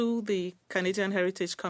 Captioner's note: speaking French